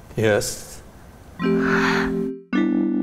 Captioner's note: slow music; gasps